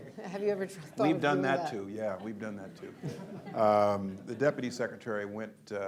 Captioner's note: laughter